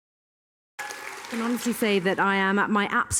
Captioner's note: audience clap